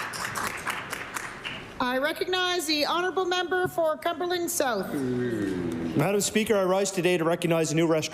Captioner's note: applause